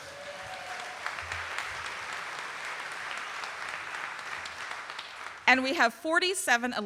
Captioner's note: audience cheering and applauding